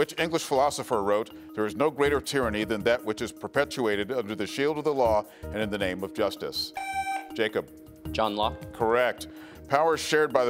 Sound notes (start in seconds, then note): 6.7 buzzer beeps